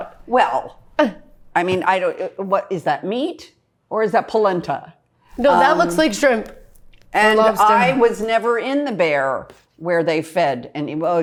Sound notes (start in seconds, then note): none